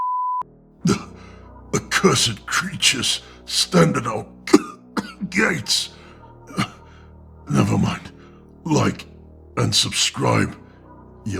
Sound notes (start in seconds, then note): 4.3 cough